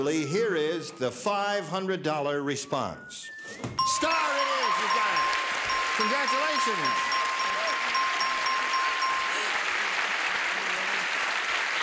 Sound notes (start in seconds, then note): 3.8 bell dinging; 7.2 cheers and applause